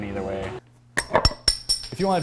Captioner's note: bottlecap clinking